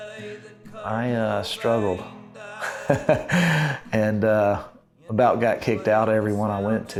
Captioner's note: laughing